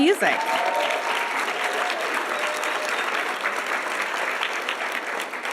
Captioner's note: audience applauding and cheering